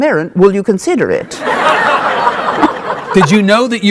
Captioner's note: audience laughing